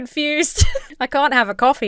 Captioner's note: giggles